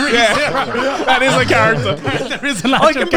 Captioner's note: all laughing